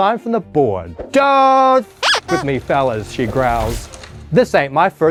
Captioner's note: horn squeaking